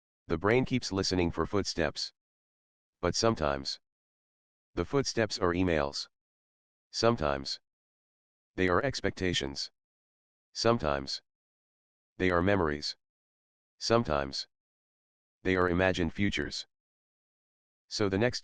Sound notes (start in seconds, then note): 17.0 pause